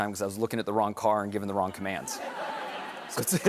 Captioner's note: laughter